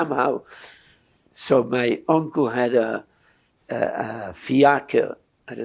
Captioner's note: non-english